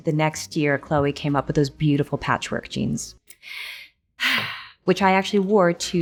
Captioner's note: sighs